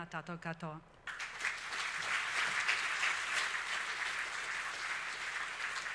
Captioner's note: speaks foreign language; audience applauding